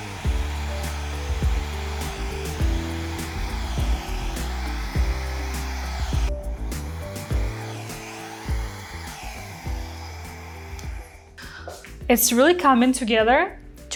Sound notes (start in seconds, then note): 0.0 bright music; 0.3 machine whooshing; 6.3 machine whooshing